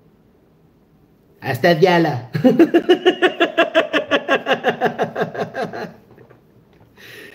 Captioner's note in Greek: γέλια